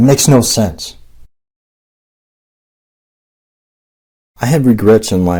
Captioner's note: silence